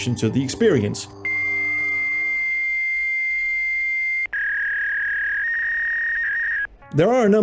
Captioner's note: ear-screeching dial-up modem sounds